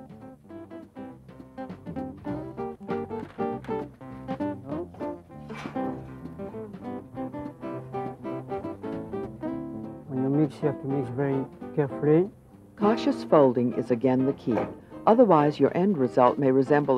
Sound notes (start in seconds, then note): 12.9 voiceover